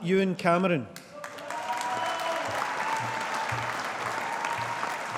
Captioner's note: audience applauding